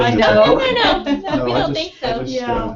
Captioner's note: laugh